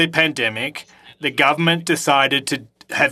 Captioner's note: speaking French